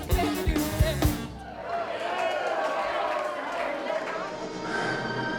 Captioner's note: applause